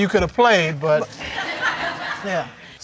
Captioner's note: audience laughs